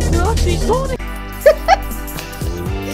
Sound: giggles

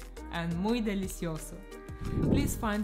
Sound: in Spanish

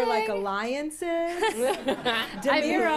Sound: laughter

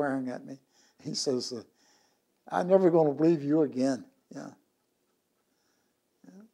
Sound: laughs

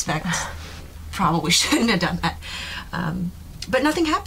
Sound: laughing

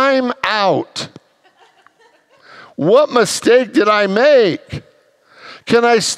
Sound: congregants laugh

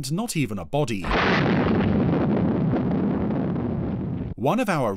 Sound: bomb exploding

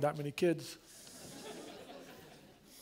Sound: laughter

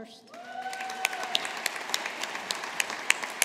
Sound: audience applauding

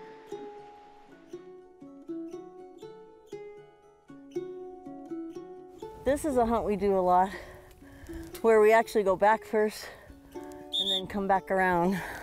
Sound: whistles

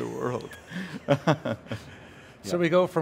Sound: laughing

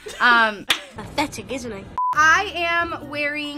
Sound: ladies laughing; beep

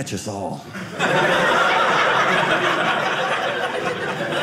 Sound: audience laughing

